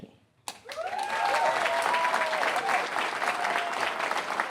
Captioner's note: cheers and applause